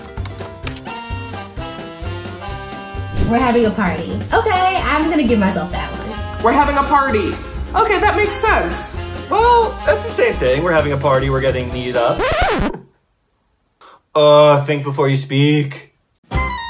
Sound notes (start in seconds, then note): 0.1 upbeat music; 12.1 record scratches; 16.5 upbeat music